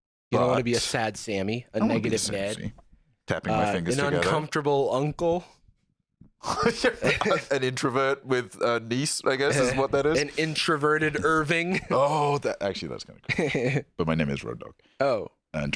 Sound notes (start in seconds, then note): 6.4 laughs